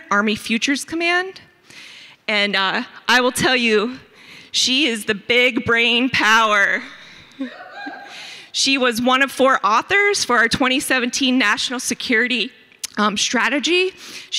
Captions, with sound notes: Army Futures Command. And I will tell you, she is the big brain power. (audience members hoot) She was one of four authors for our "2017 National Security Strategy".